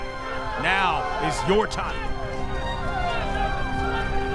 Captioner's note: shouting